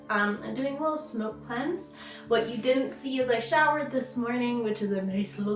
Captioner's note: none